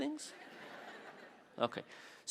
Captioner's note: audience laughing